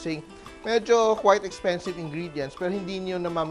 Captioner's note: sizzle